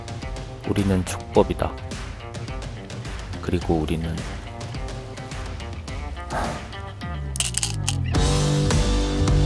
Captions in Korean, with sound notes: 우리는 촉법이다 그리고 우리는 [시훈 한숨]